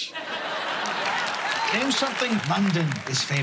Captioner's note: laughter